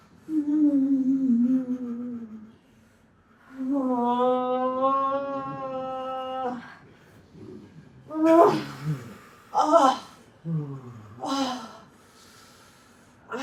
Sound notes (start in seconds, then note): 0.0 moaning